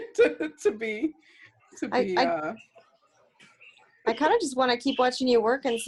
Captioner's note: laughter